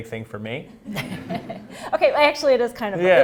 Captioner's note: laughing